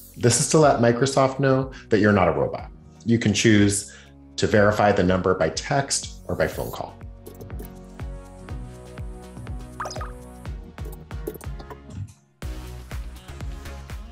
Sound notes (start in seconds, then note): 7.5 cheerful music; 9.8 computer squeaks